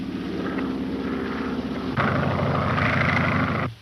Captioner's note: engine droning